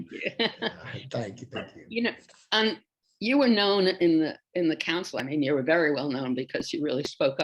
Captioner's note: laughs